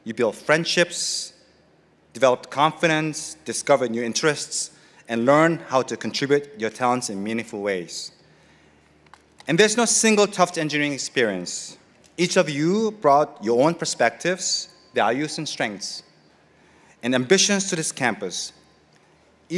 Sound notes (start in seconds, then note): none